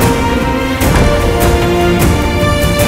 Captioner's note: Door closes